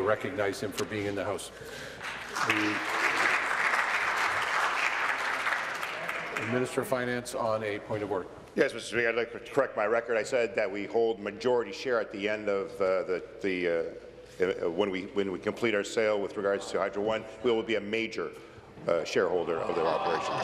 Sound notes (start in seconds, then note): 5.2 applause